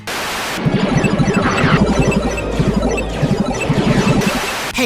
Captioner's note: blaster fire and arcade sounds